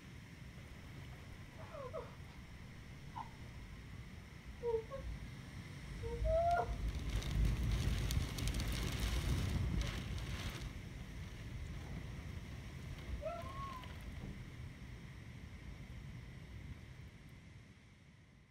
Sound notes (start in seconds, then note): 1.5 Natalie crying